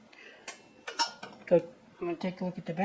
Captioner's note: clank, clink